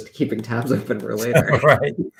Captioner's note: laughter